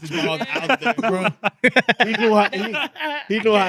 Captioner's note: laughing